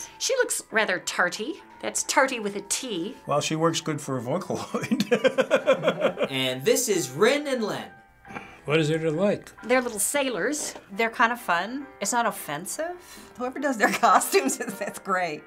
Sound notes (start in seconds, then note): 4.6 chuckles